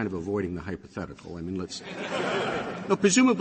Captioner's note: laughter